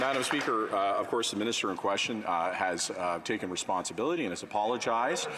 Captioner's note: some Applause